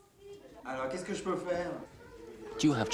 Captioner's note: speaking french